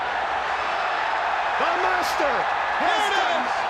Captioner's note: crowd cheering